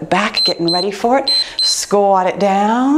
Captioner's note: timer beeps